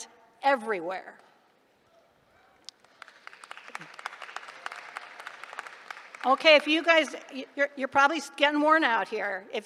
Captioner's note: applause